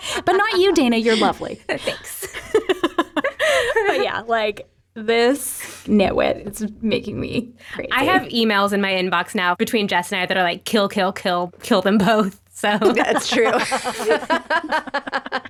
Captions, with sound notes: But not you, Dana, you're lovely, thanks. (laughing) Yeah, like this, it's making me creative. I have emails in my inbox now between Jess and I that are like kill, kill, kill, kill them both, so. That's true.